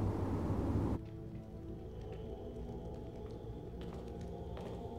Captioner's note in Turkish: Yaklaşan ayak sesleri